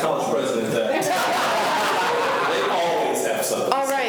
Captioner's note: students laugh loudly